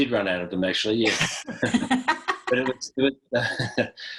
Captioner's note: laughs